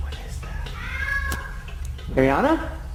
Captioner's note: upstairs scream